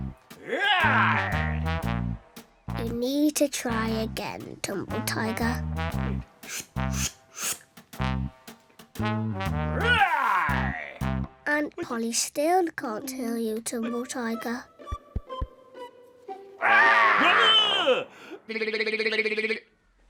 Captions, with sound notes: [tiger noise] you need to try again tumble tiger [tiger noise] and polly still can't hear you tumble tiger [squark]